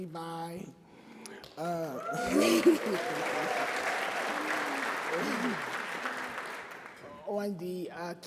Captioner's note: laughs and Applause